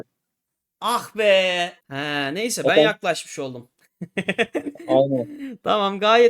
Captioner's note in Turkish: kahkaha